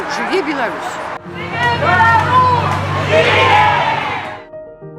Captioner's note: people chanting: "Long Live Belarus!"